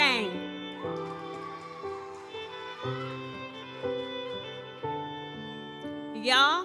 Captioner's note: audience cheers; gentle music continues